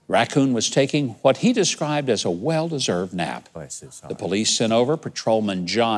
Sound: none

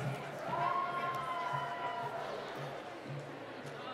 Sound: cheering

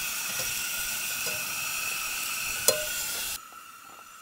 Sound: food sizzling

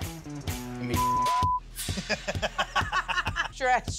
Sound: beep; group laughs

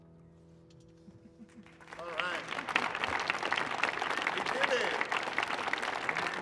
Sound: applause

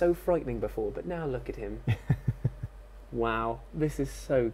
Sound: laughs

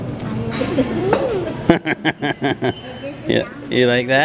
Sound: laughing

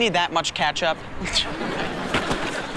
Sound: chuckles

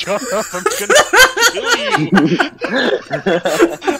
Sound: laughing like a shithead

